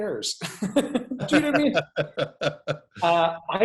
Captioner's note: laughing